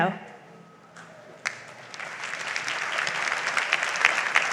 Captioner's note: audience applauds